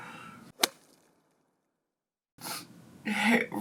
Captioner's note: graphic whacks